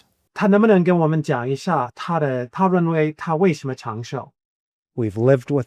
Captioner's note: speaking Chinese